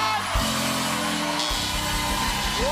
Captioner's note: buzzer